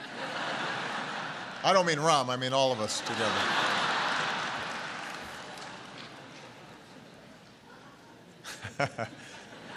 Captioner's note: laughter